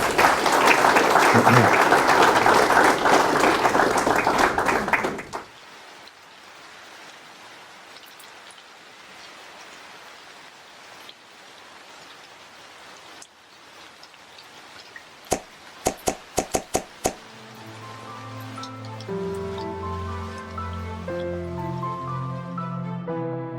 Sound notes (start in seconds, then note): 0.0 applause; 6.0 rain sounds; 17.2 closing music